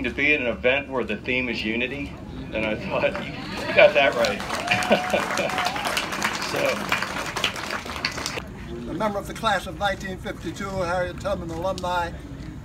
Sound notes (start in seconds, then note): 4.6 laughter; 6.7 applause